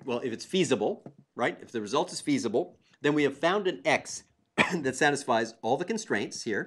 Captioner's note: cough